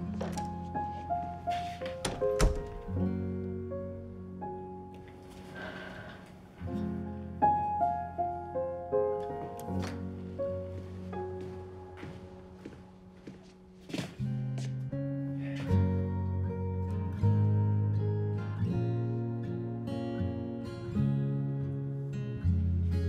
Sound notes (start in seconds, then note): 5.4 sighs